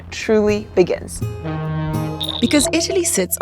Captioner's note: ferry honks